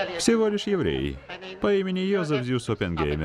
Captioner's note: laughs